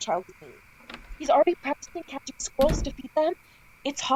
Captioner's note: door closes; door opens